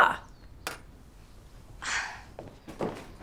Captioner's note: scoffs